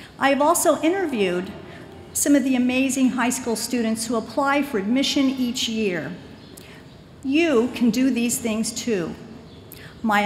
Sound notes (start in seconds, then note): none